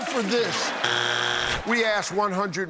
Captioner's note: buzzer